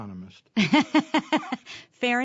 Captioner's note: laughter